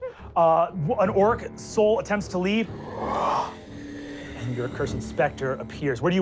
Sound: giggling; deep breath

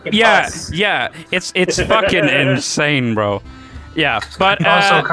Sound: laughter

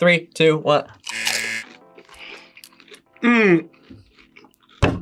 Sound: buzzer

